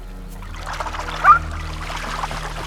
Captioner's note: honks